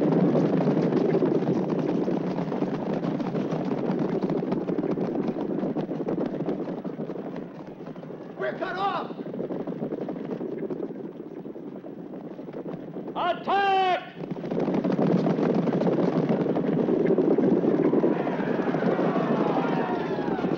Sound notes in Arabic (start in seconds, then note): 0.0 حوافر تدق; 10.6 حوافر تدق; 14.6 حوافر تدق